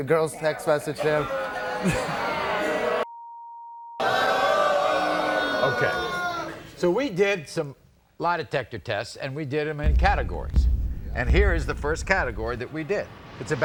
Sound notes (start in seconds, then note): 1.5 audience oohs; 3.2 beep